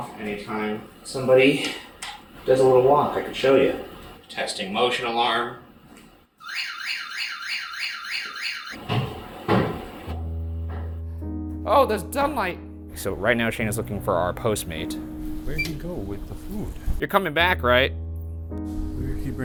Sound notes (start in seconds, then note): 6.4 alarm blares; 8.9 footsteps pounding